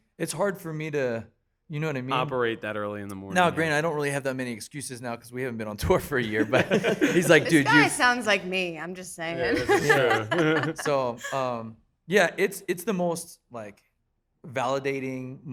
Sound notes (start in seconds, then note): 9.3 laughing